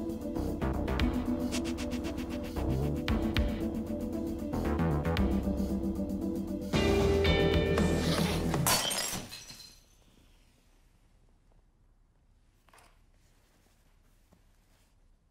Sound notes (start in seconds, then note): 8.0 glass breaks